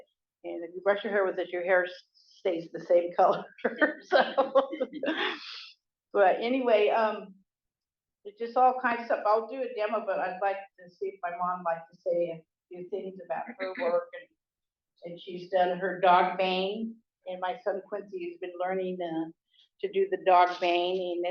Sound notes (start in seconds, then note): 3.6 laughs